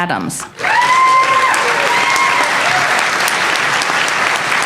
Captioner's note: applause